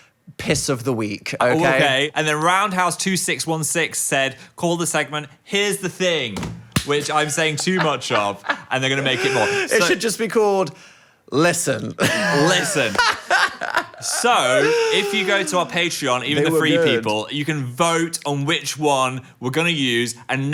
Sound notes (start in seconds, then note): 6.7 hands clapping; 7.1 laughing; 12.0 laughing